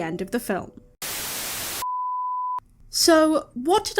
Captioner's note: static